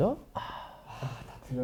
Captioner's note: sighs